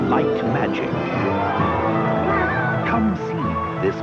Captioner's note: crowd gasps